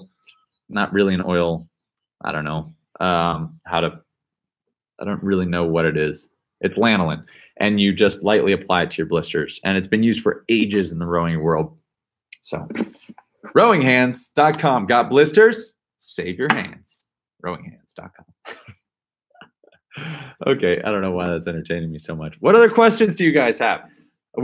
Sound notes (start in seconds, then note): 18.5 laughs